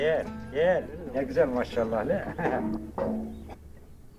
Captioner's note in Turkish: Kahkaha